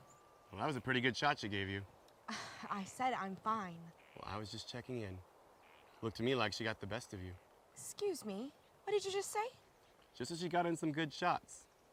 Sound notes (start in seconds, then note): 2.1 scoffs